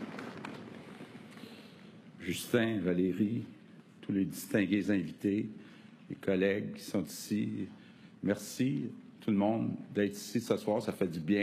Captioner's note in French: applaudissements